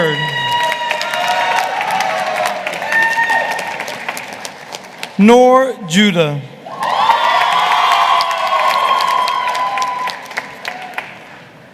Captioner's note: applause